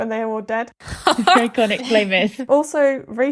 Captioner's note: laughing